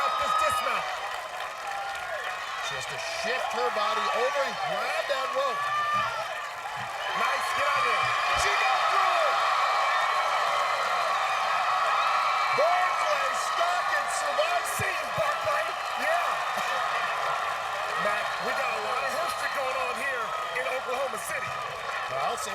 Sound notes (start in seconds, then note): 10.3 cheers and applause